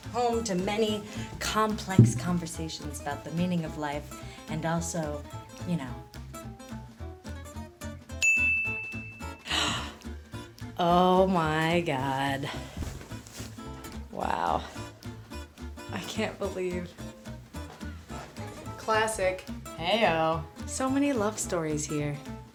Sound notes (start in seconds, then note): 8.2 ding; 9.5 gasps